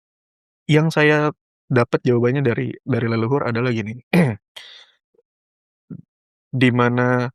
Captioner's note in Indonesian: berdehem